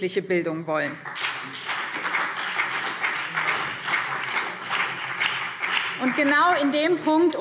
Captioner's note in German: Beifall BÜNDNIS 90/DIE GRÜNEN und CDU